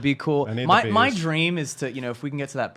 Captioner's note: mumbles